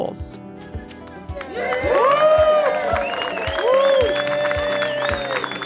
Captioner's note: crowd clapping and cheering